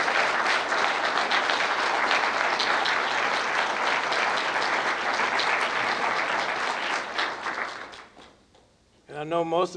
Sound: applause and cheering

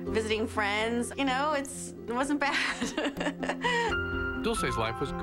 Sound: laughs

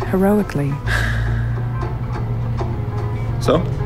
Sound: deep exhale

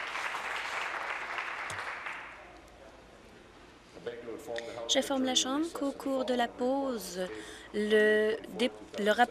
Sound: applause

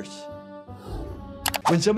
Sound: Splendid whooshes; mouse clicks

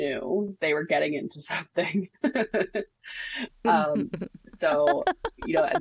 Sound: laughs

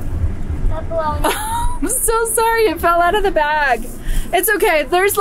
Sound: laughs

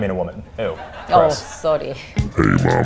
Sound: audience laughs

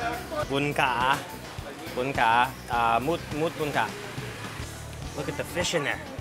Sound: speaks in foreign language

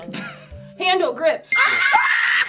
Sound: chuckling; bell chiming; both screaming

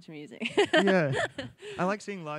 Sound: laughs

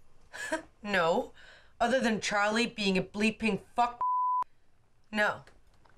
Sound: chuckles

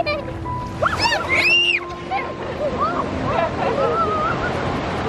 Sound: family laugh and scream

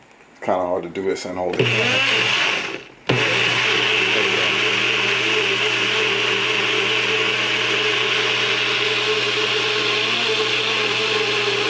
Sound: Sound of the Nutribullet; sound of Nutribullet

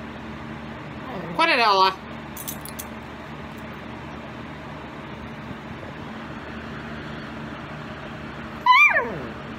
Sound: Ella barks

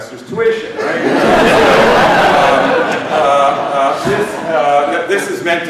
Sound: laughter

